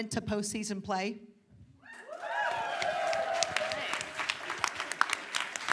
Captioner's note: applause